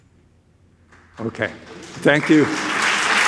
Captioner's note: audience applauds